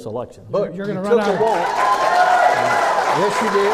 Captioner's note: clapping